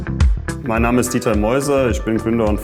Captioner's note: non-english speech